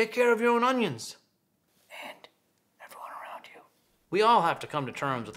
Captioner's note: whispers